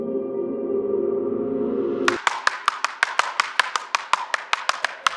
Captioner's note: tapping sound